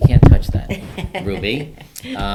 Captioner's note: laughing